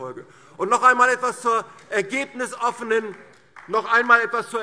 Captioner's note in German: Beifall DIE LINKE